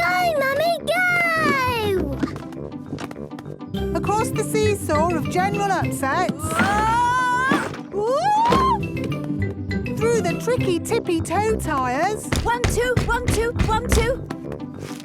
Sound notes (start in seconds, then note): 6.0 wood teetering